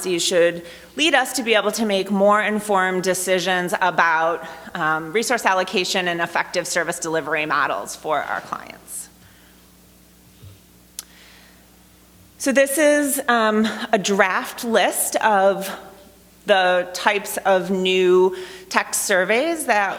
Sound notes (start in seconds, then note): none